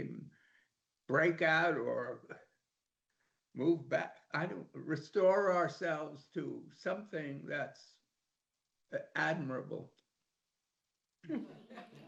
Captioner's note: laughter